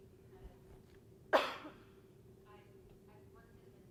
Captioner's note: coughing